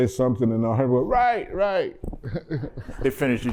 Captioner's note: laughter